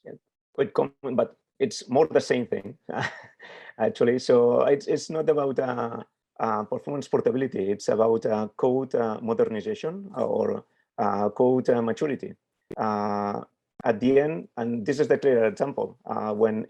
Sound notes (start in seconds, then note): 2.8 chuckles